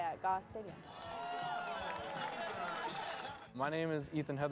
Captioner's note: crowd cheering